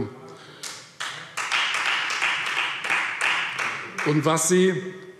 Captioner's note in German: Beifall Freie Demokraten